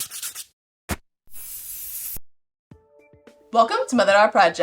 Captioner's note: tools scraping